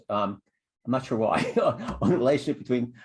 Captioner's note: laughter